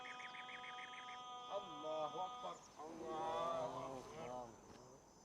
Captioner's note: men speaking in arabic